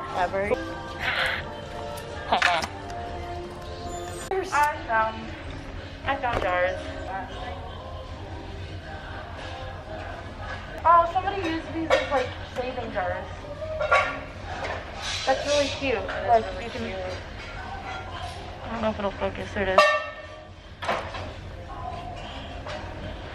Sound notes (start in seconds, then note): 1.0 laughs